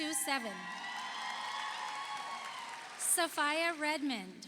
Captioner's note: audience cheers; audience applauds